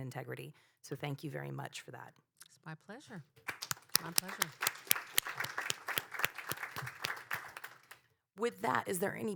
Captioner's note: applause